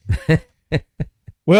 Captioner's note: laughs